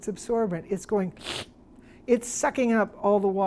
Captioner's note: slurps